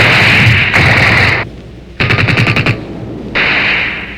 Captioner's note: guns firing